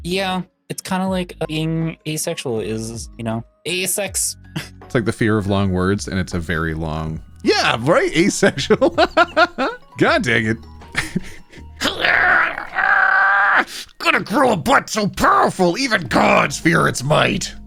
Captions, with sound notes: Yeah, it's kind of like being asexual is, you know, a sex. It's like the fear of long words and it's a very long. Yeah, right, asexual. (laughing) God dang it. (screaming) Gonna grow a butt so powerful, even God's fear it's might.